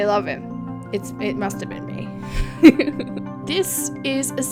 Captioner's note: laughs